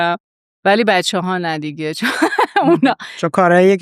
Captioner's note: laughs